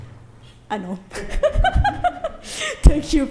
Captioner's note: laughing